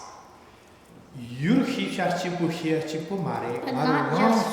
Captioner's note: speaking tibetan